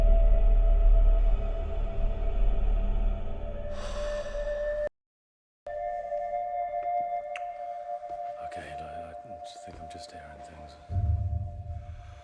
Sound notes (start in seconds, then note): 4.0 Danny sighs